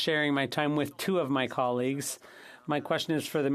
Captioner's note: speaking French